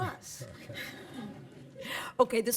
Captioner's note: laughter